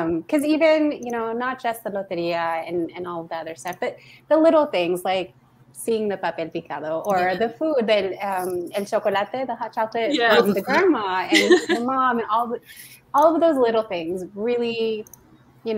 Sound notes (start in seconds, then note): 8.5 speaking foreign language